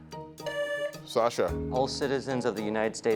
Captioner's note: tone sounds